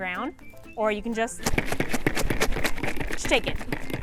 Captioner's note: rattling sound